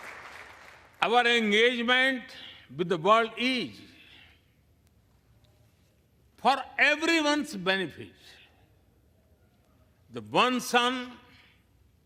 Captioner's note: applause